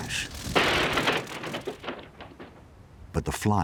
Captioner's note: plane crashing